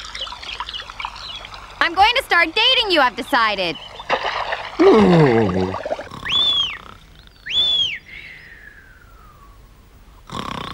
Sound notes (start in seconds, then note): 4.3 Snufkin groans in despair underwater; 7.4 whistling; 8.3 Sniff snoring